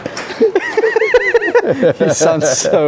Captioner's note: laughing